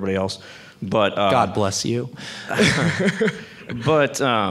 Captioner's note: laughs